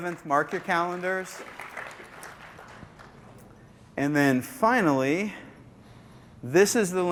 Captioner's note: applause